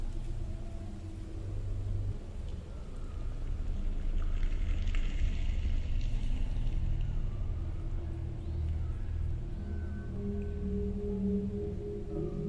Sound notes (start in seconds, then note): 5.4 trees crackling; 9.6 eerie music